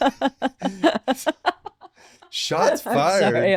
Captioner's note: laughing